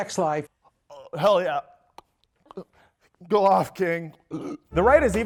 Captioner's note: gagging noises